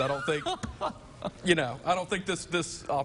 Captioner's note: laughing